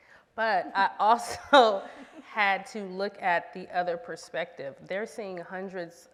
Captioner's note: laughs